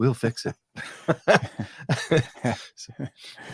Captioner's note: laughing